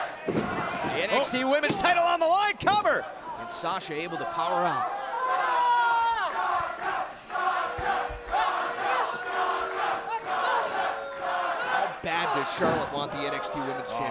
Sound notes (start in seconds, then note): 7.0 fans chanting